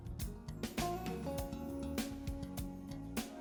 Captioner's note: none